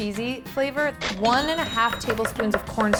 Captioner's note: cash register chimes